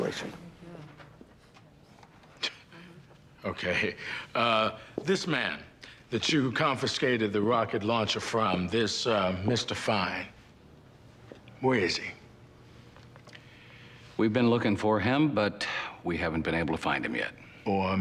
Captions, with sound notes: Dominguez, you're not helping the situation. - (scoffs) Okay. Uh, this man that you confiscated the rocket launcher from, this, uh, Mr. Fine... where is he? - We've been looking for him, but we haven't been able to find him yet.